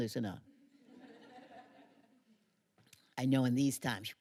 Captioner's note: laughter